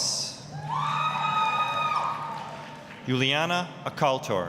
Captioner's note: applause, cheering